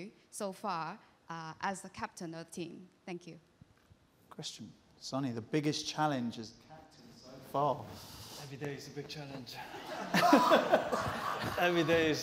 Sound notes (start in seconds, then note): 9.6 laughter